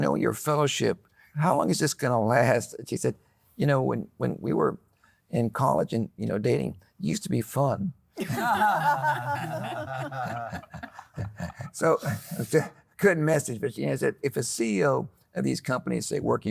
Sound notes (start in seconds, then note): 8.2 group laughing